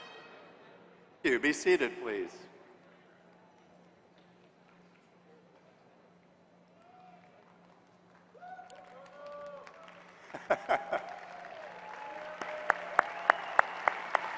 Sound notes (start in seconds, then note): 2.5 laughter